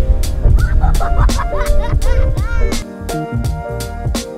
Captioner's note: child laughing